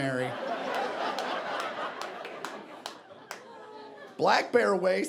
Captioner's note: audience laughing